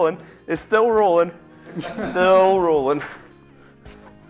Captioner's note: laughter